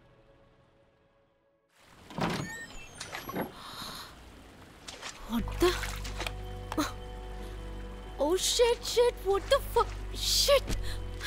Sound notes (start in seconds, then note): 2.0 door opens; 6.0 wading in water